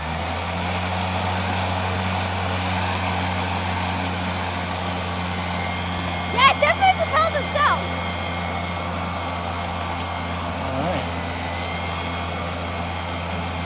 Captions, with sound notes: [lawn mowing noises] yeah it definitely propels himself all right